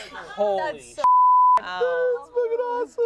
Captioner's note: beep